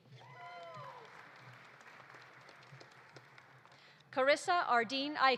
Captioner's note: audience applauding; audience cheering